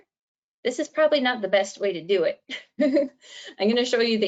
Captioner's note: laughs